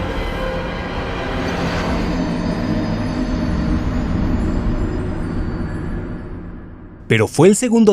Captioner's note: Dark Souls sound